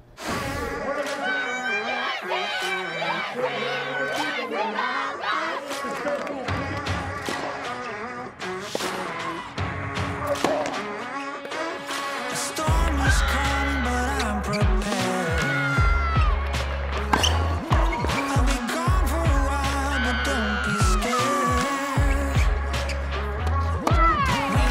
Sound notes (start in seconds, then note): 0.2 lively music; 0.3 women chanting; 4.4 tennis racquets popping; 4.4 women yelling